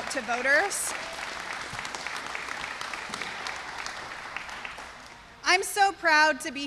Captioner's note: applause